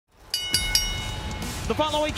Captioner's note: bell dings